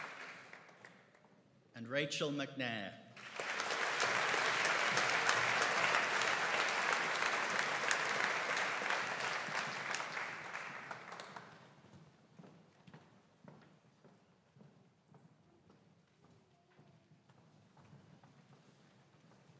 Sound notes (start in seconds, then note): 3.2 audience applauding; 11.8 footsteps clicking